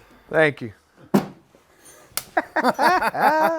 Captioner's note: guys laugh